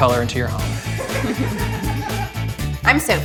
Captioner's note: both laughing